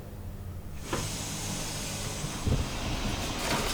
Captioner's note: water running